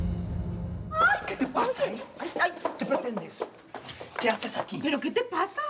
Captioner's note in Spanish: Gritos de ella